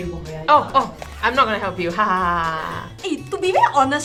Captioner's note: evil Laughs